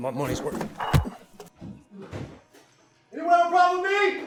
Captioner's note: fist thuds